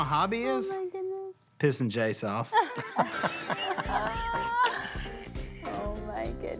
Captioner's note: laughing